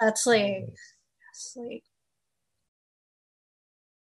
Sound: murmurs

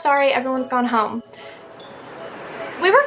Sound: wind blows

